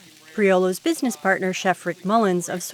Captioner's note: voiceover